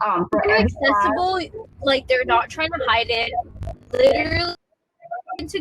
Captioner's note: technical glitch